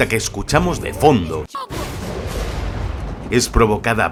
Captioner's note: storm noises